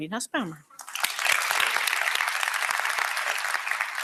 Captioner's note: applause